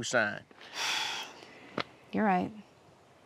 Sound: sighs

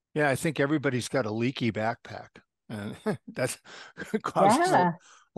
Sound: laugh

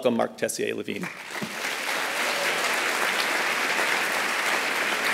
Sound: applause

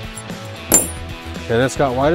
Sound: metals crank

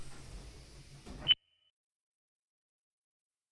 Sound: recorder beep

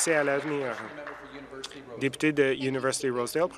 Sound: applause

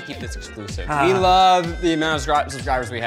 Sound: chuckles

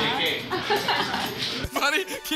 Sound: laughs

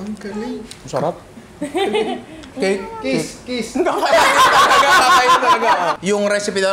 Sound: laughter

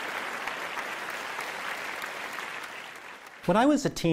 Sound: applause

